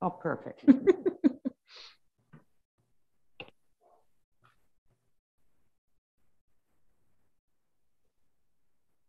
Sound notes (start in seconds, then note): 0.6 laughing